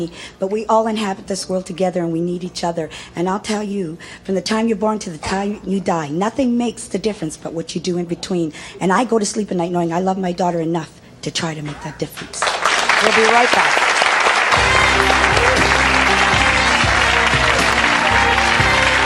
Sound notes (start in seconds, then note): 12.3 audience applauding; 14.3 slow jazz music